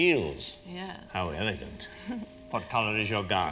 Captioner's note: chuckles